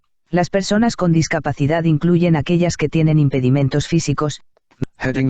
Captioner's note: speaking in foreign language